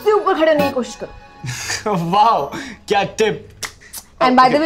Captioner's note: Laughs